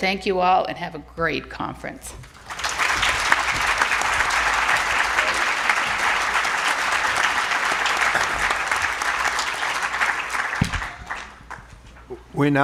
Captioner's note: applause